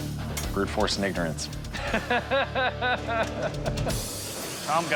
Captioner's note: laughs